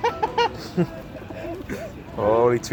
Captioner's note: laughter